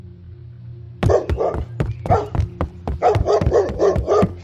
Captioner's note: footsteps; dogs barking